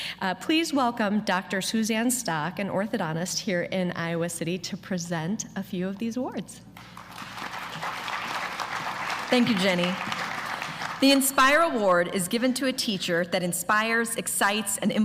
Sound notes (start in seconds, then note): 6.8 applause